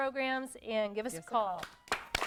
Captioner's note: �applause�